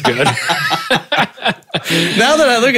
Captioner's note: laughing